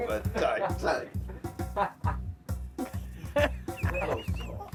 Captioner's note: laughs